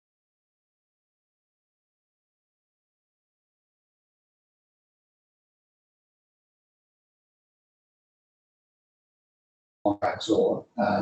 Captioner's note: audio cuts out